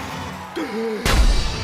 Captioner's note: gasps